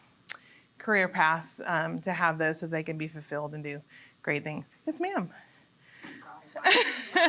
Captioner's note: laughter